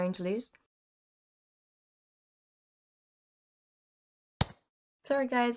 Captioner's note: punching sound